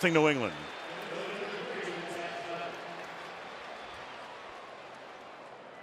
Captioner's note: pa announcement